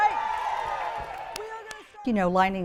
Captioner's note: crowd cheers